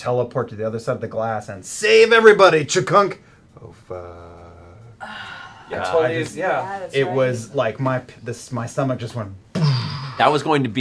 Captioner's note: clunk